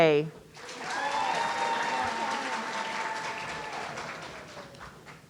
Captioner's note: audience cheering